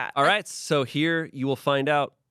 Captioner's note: none